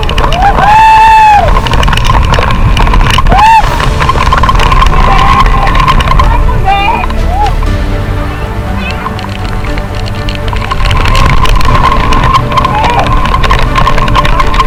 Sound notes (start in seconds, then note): 9.0 heavy rain